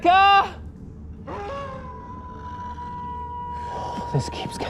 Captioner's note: howling